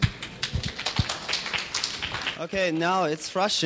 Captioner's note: clapping